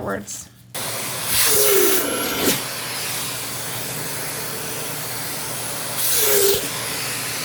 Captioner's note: continuous sound of vacuum cleaner